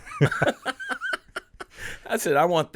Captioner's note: laughing